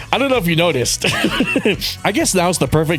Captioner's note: laughs